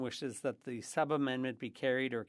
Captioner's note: speaking French